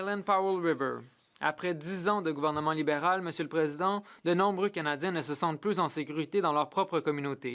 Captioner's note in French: voix de l'interprète